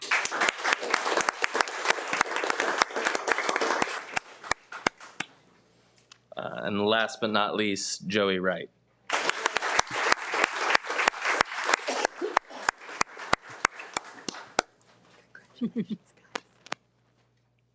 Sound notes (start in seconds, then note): 0.0 participants applauds; 9.0 participants applauds